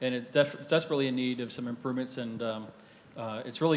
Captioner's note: none